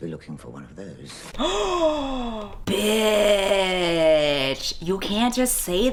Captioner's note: gasps